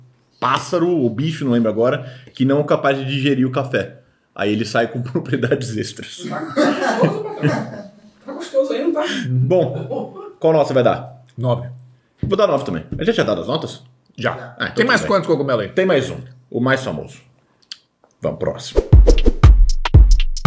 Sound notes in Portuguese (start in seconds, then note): 6.2 risos